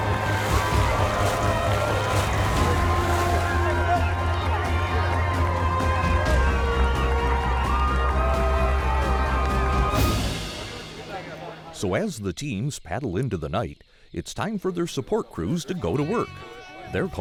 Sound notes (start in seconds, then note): 0.0 splashing; 4.2 cheering